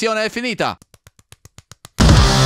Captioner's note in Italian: rumore di accarezzare velocissimo